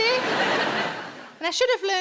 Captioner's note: audience laughs